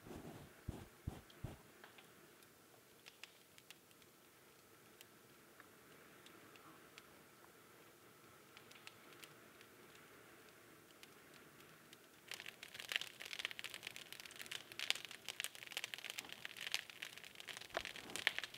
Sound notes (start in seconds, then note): 12.6 fire crackling